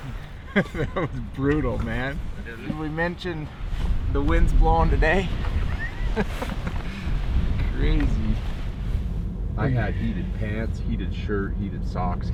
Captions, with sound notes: (laughing) That was brutal man! Did we mention the winds blowing today! (laughing) Crazy. I had heated pants, heated shirt, heated socks.